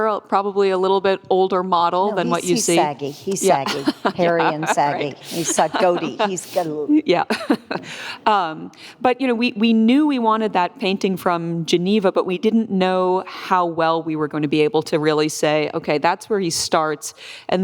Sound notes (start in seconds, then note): 5.1 laughs; 8.4 laughs